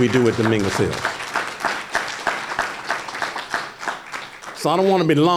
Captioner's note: applause